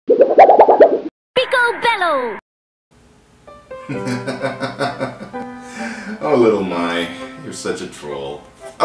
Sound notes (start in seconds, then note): 0.1 wobbly noise; 3.9 laughs